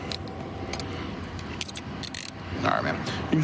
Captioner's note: handcuff closing